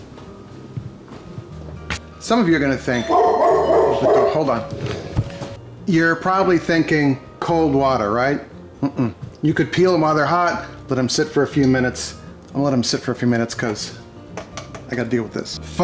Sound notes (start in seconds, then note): 2.9 door bell ringing; 3.0 dogs barking